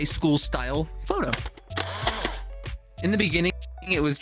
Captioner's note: camera flashing